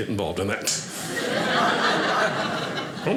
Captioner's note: audience laughing